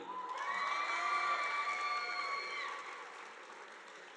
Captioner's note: audience applauding